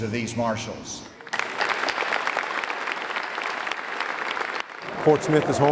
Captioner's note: audience applauding